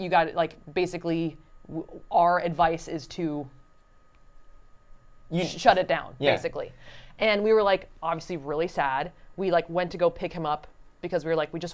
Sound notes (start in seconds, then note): none